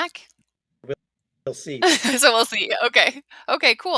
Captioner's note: laughs